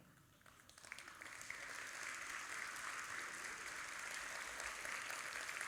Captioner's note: audience applauding